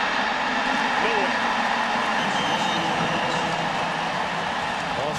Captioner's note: crowd cheering